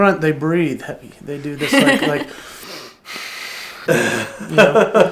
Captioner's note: breathes heavily